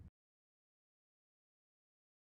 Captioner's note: silence